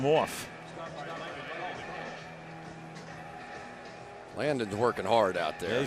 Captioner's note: pa announcement